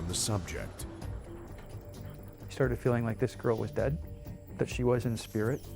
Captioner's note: voiceover